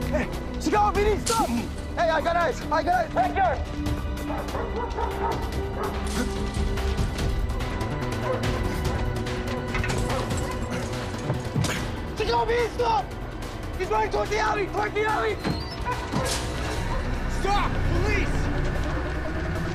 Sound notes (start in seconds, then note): 6.0 barking; 12.4 dramatic music; 19.5 dramatic music